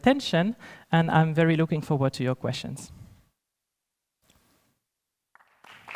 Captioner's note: applause